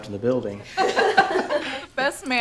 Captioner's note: people laugh